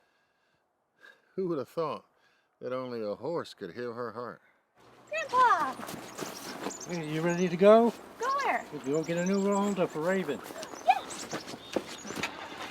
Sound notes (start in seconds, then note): 5.7 birds chirping; 12.5 engine rumbling